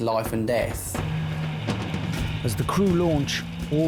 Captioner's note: lifeboat engine whirring